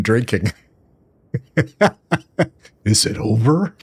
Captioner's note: laughs